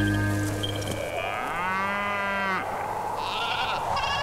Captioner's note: Bellows